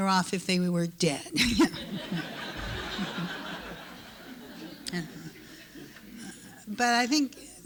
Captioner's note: laughter